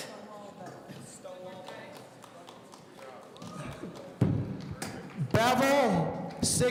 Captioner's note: people speaking in the background